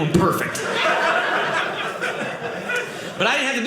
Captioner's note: audience laughing